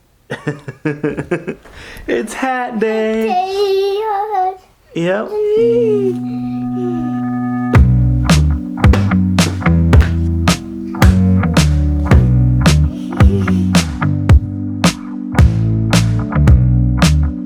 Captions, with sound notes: (laughing) It's hat day. - Hat day. (humming) (upbeat music)